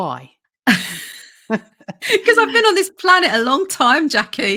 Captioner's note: laughs